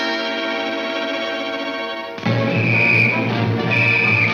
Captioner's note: whistle blares